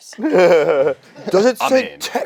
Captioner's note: laughs